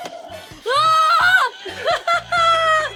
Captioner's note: screams; laughs